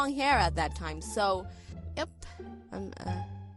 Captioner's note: stuttering